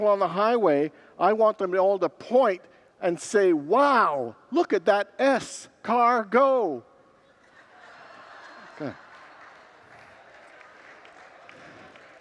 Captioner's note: congregants laugh and moan